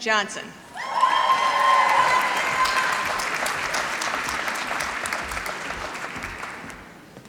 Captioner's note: applause